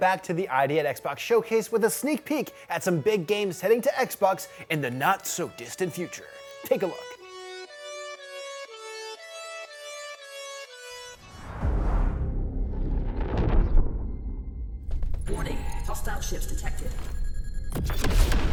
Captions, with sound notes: But for now, let's get back to the ID@Xbox Showcase with a sneak peek at some big games heading to Xbox in the not-so-distant future. Take a look! [upbeat electronic music playing] [female computer voice] Warning, hostile ships detected.